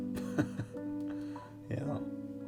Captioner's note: Kellan chuckles